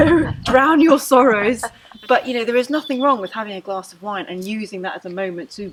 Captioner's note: laughter